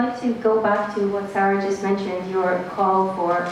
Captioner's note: none